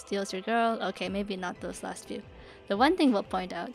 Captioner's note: phew